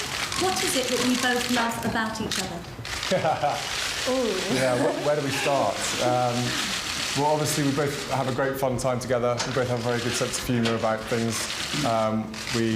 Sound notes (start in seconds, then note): 3.0 William laughing; 4.4 Kate laughing